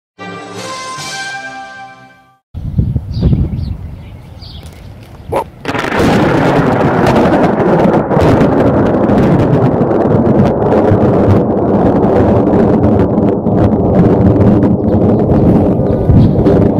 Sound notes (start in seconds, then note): 5.6 loud thunder